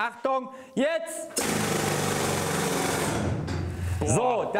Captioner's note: the hammer drill rattles